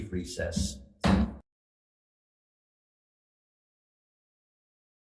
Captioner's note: gavel slamming